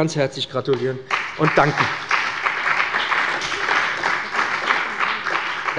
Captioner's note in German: Beifall bei dem BÜNDNIS 90/DIE GRÜNEN und der CDU